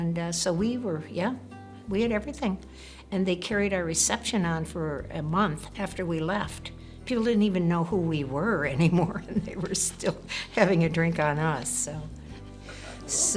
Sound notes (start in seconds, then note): 9.2 laugh